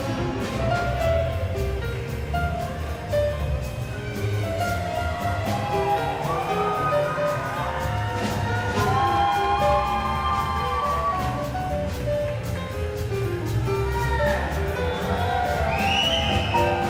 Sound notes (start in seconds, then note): 4.3 people cheering; 7.7 upbeat jazz music continues